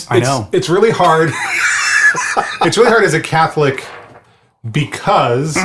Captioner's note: laughs